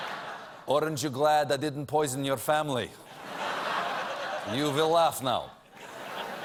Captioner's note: laughter